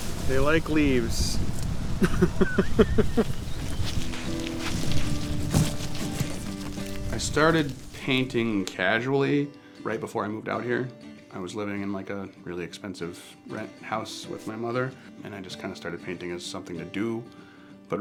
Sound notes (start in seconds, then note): 0.0 leaves rustling; 2.0 laughing; 4.6 foliage crunching